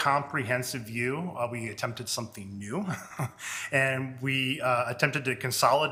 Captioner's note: chuckles